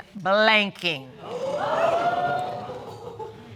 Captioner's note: audience gasps